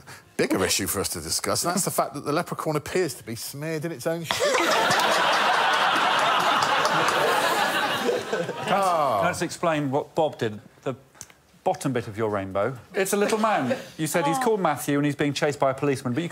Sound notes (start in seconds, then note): 4.3 laughter